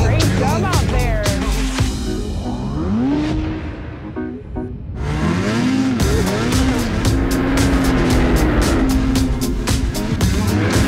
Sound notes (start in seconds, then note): 3.9 upbeat music; 5.5 engine revs; 7.9 upbeat music